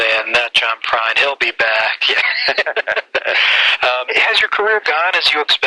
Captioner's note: laughs